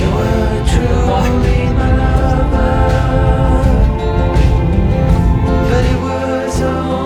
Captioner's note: laughs